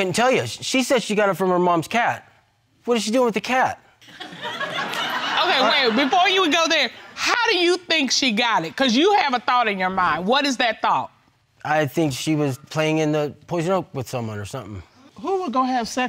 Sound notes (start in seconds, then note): 4.1 audience laughing